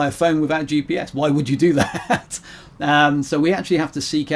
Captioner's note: laughs